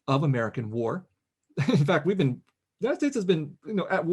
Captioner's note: laughs